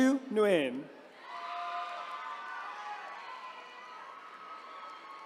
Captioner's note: attendees cheering